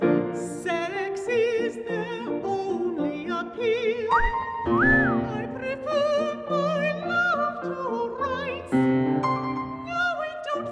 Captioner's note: whistle